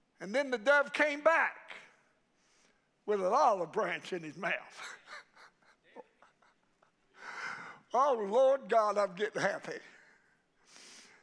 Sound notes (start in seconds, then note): 4.4 preacher laughing